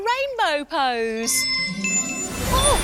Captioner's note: magical whoosh